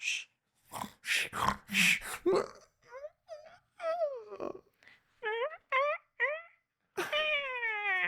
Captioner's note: snoring